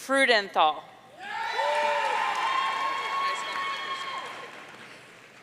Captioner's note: audience cheering